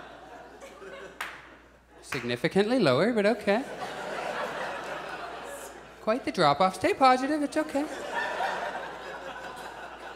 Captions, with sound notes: Significantly lower, but okay. [Audience laughs] Quite the drop-off. Stay positive, it's okay.